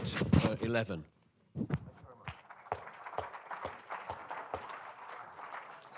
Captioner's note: applause